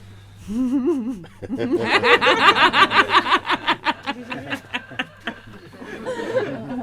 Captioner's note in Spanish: Interlocutor y ríen